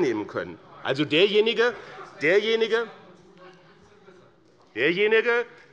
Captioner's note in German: Zuruf des Abg. - Unruhe